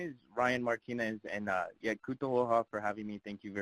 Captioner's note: foreign language